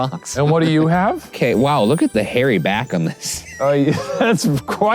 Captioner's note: laughs